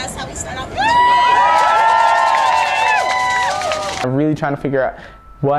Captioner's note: protestors cheering